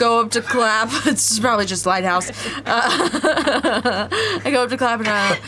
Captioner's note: laughs